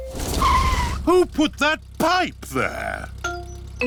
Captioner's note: tires screech